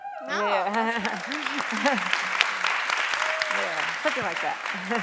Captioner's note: applause